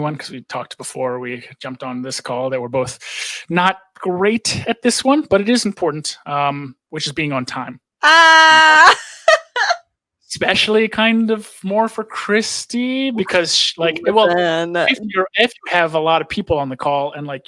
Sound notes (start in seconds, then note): 8.4 laughs